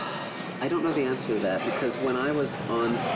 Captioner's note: sighing